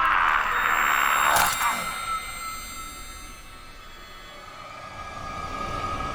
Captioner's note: screams